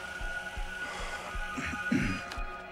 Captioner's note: clears throat